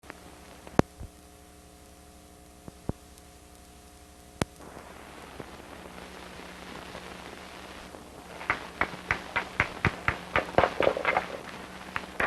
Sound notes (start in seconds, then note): 0.0 static; 8.4 sound of rock hammering and grinding